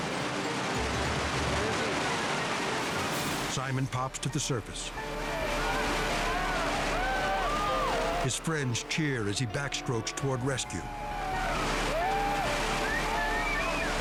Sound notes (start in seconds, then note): 6.6 friends cheer; 10.9 earnest music